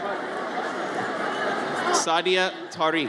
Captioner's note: audience chatters